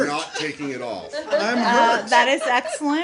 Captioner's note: laughter